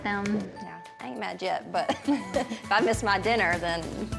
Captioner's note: laughs